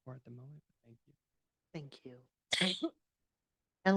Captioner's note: cough/sneeze